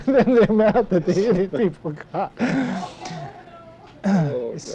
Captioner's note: laughter